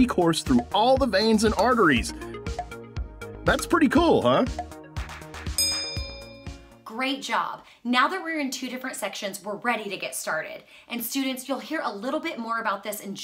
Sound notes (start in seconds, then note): 4.6 soft music; 5.5 bell ringing